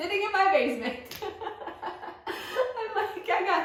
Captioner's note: laughter